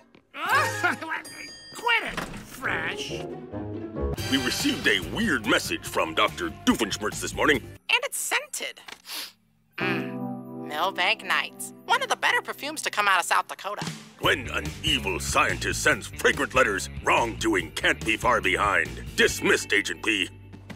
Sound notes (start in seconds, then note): 0.2 giggles; 9.0 sniffs